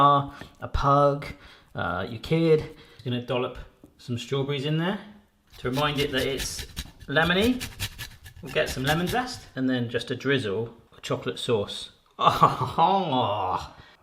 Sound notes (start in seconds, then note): 12.2 laughs gleefully